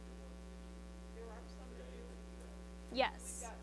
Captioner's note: student speaks faintly